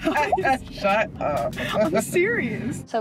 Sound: laughing

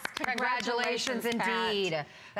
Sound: applause

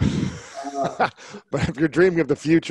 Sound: Lewis laughs

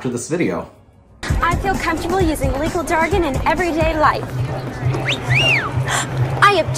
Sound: background cat call

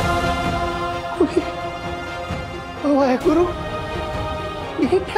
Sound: chuckling

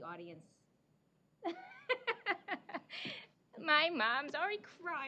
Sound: laughing

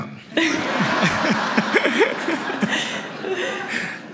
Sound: laughter

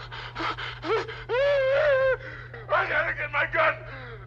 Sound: Barney voiceover wailing

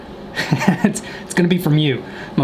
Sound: chuckling

